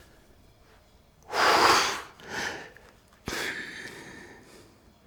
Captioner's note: exhales